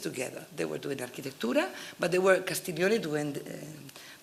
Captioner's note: italian